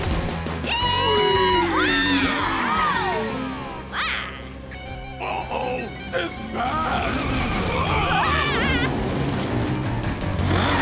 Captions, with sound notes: -Yee haw! -Wee! My. Uh oh, this bad! [screaming]